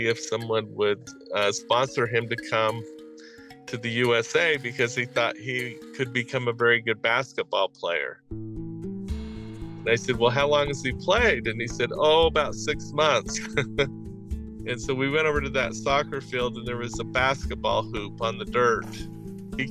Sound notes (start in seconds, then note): 7.8 african folk music stops; 8.6 dramatic music; 13.3 laughs